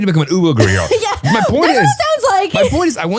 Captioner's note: laughs